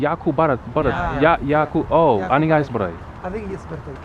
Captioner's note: somali